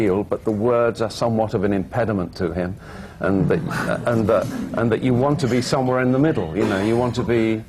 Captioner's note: laughter